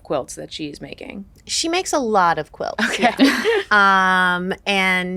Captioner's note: chuckle